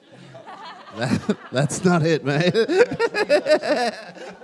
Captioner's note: laughs